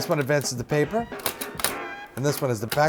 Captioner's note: clicking